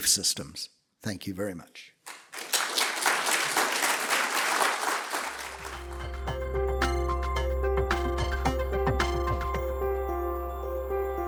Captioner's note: applause